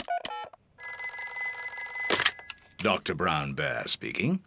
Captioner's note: beeping; phone rings